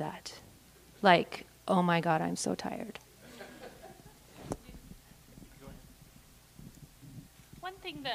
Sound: laugh

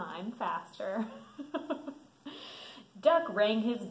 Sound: laughs

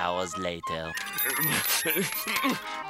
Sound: panting and beeping

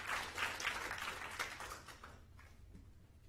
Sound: applause

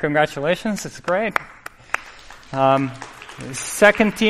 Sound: applause

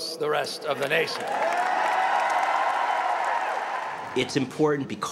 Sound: applaluse

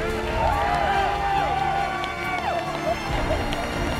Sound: cheering

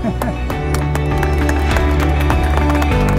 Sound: applause

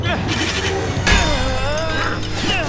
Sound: crashing

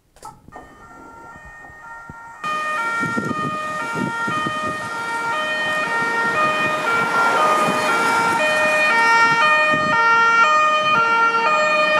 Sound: police Siren

